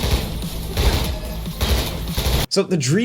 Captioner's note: guns firing continuing; metal clanging